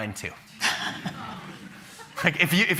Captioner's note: chuckles